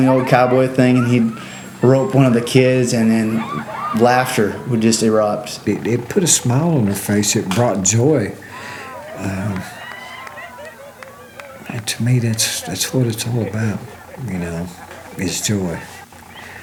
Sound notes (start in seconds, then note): 8.4 laughter